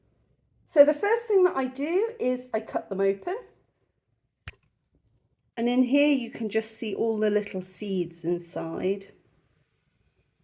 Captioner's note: click